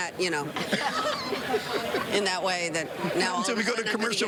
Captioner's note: laughter